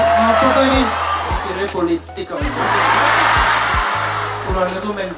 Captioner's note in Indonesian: tepuk tangan; tertawa